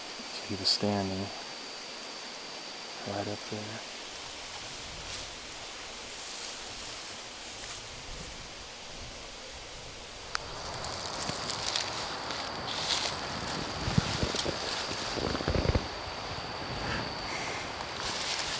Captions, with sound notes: and he was standing right up there [wind blowing]